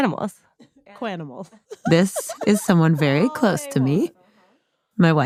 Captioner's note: laughs